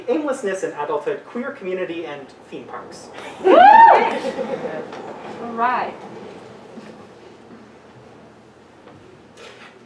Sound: audience woos and laughter

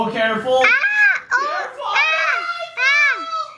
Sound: yelling

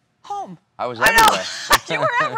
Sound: laughter

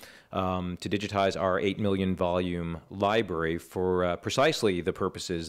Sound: none

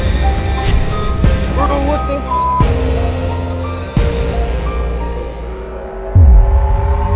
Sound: beep

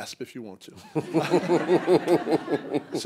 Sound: laughter

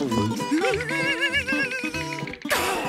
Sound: shivering

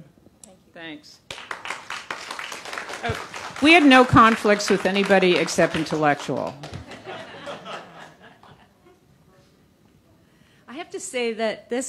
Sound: applause

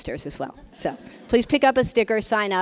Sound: laughs

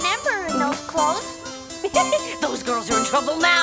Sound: the Witch giggles

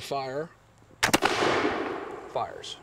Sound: gunshot

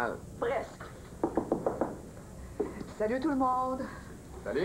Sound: On frappe à la porte

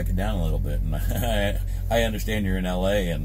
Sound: laughs

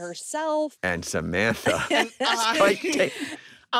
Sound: all chuckling

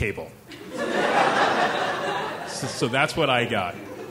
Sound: laughing

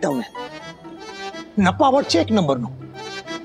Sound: speaking regional language

